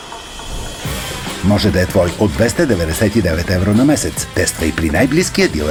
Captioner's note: на чужд език